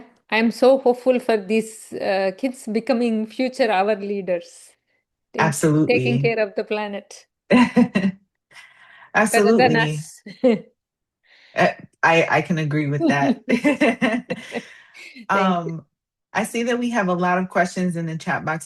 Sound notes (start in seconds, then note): 7.8 laughs; 13.0 laugh